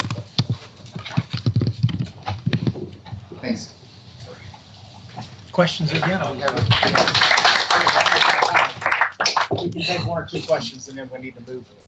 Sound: applause

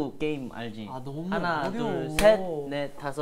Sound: clap

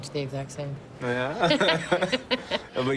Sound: laughter

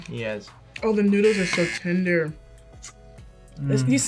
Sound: buzzer rings

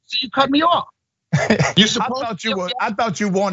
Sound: laugh

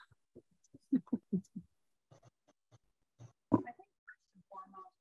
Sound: laughing

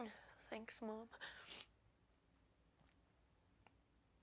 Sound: sniffles

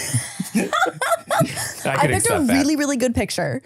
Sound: laughing

